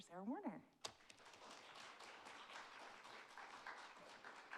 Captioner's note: audience applauds